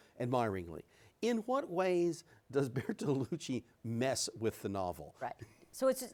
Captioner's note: laughs